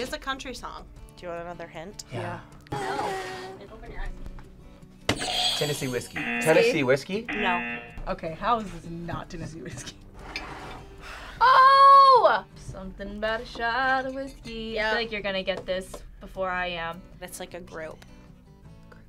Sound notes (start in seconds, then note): 3.7 vocalizing; 7.3 audio buzzes